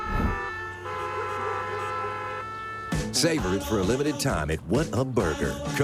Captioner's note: cars honking